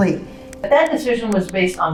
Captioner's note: words click